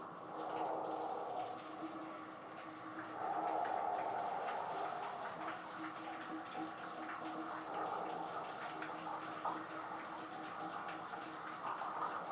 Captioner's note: more deep breaths